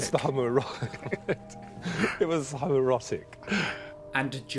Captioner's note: both laugh